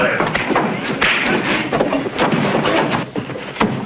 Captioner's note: body thuds; fist pounding; body clattering